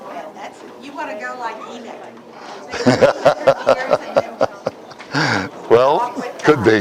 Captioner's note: Смех